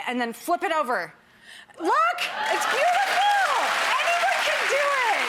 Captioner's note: clapping